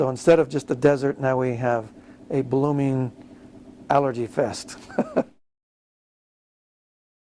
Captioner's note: laughs